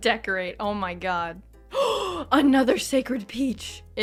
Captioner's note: gasp